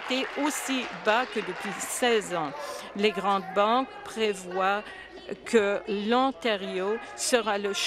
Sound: applause

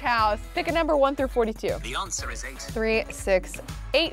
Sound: voice On Phone

